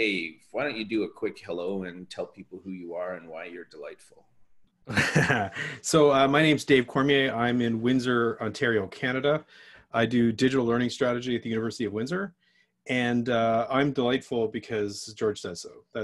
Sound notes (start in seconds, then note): 4.9 laughs